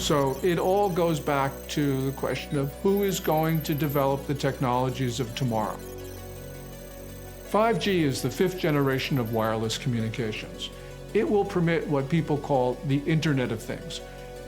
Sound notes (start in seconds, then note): 6.1 computer calculating sound effect